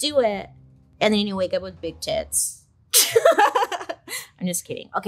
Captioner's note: laughs